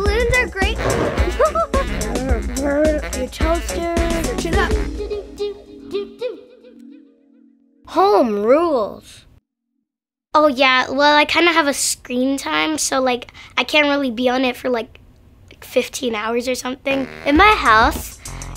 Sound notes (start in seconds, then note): 0.7 child laughs; 0.7 child mimics balloon squeaking